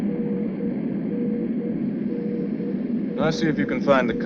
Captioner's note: machine beeping